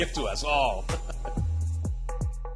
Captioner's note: laughs